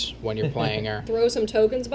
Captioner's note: laughs